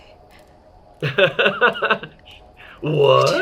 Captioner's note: laughs